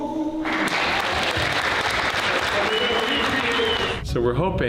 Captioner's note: crowd cheers and applause